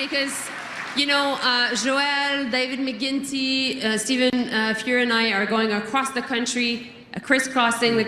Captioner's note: cheering and Applause